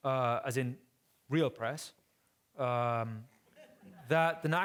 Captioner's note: audience laughing